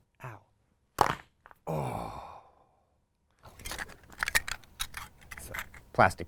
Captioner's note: loud cracking; man sighs